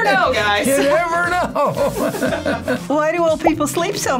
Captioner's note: laughs